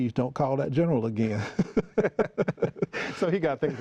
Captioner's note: laughing